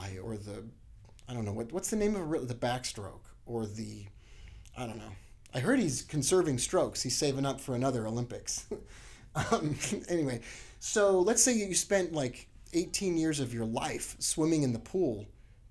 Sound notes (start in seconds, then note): 9.4 laughs